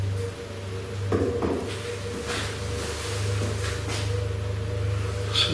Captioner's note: bangs emit from wall